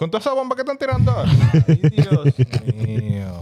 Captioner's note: speaking Foreign Language; laughing